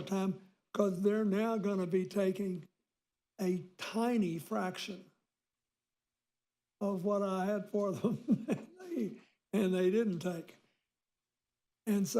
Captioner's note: laughs